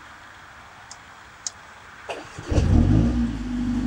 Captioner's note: engine Start